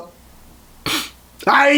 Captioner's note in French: snif